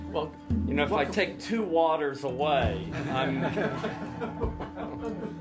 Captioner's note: laughter